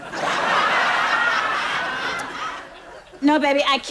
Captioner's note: audience laughs